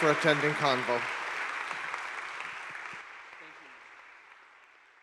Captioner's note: audience clapping